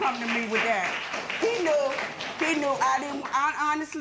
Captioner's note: applause